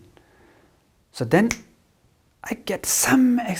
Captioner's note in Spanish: chasquido